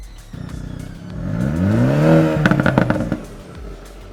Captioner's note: car engine revving